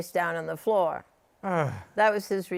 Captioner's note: groans